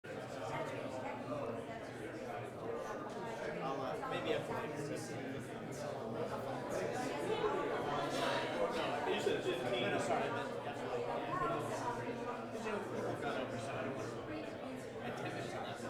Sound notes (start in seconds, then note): 0.0 background conversations